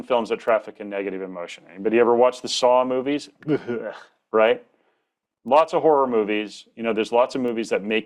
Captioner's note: gags